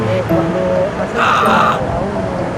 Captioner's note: screams